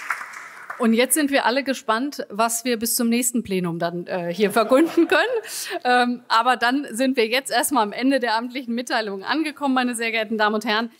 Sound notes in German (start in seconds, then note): 4.5 Heiterkeit